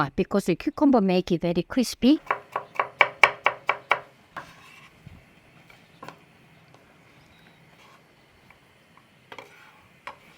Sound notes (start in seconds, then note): 2.2 knife chopping